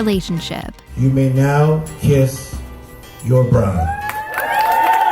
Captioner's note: cheers